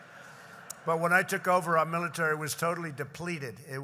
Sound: laughter

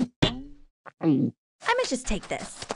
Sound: spine cracks; gulps loudly

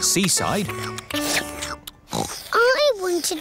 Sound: slurping; oinks

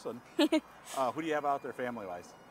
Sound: chuckling

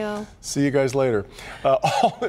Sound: laughter

